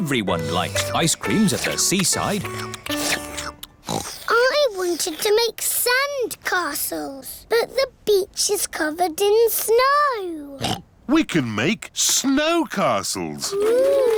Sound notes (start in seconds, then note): 3.1 slurping; 3.8 oinks; 10.6 oinks